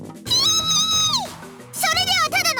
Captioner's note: frustrated shriek